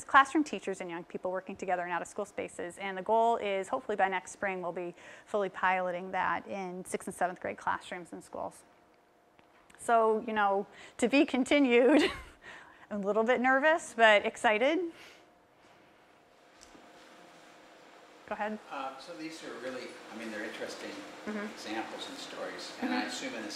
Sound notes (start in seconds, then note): 11.6 laugh